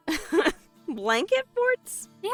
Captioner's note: laughs